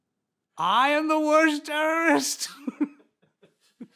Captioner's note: laughs